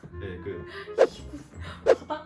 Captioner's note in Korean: 휙~